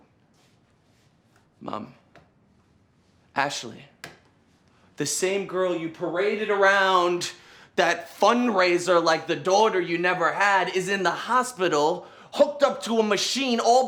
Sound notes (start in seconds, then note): none